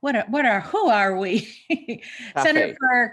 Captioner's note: chuckles